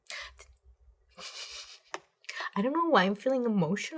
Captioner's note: chuckles